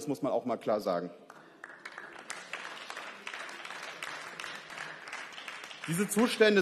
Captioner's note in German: Beifall